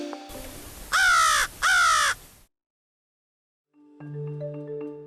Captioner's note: crow cawing